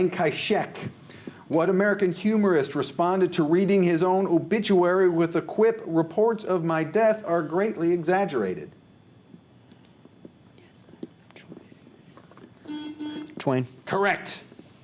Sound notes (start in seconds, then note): 11.1 whispers; 12.6 buzzer